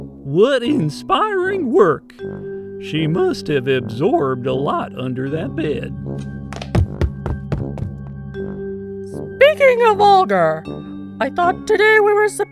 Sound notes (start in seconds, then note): 6.1 feet thuds